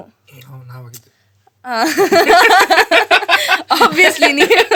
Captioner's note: both laugh